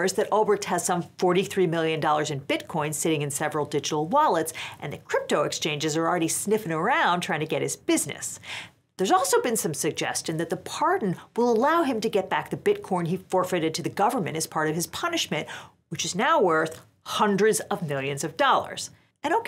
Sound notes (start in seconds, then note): none